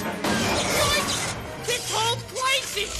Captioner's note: crash